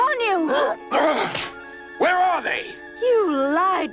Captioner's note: roars, switches snapping